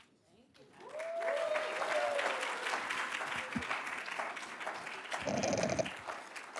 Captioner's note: attendees cheering and applauding